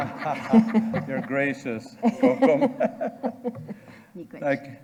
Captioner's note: audience and participants laughing; laughing